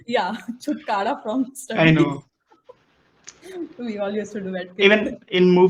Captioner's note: laughs